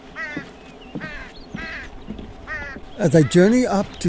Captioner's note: crow squawking